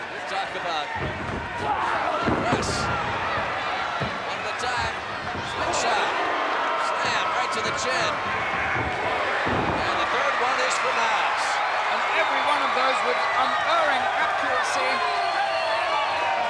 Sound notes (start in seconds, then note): 5.9 blows thudding; 8.8 body thudding